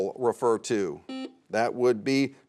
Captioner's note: buzzer sounds